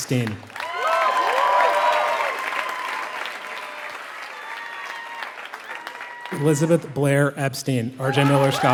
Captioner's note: applause